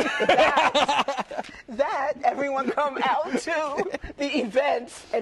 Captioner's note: laughter